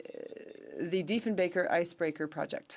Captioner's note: speaking French